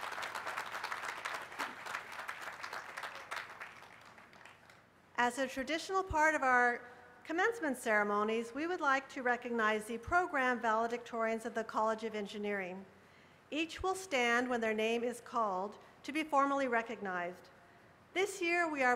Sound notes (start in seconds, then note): 2.6 applause